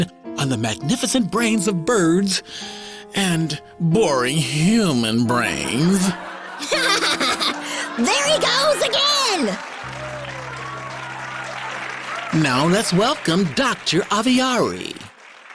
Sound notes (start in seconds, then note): 6.4 laughing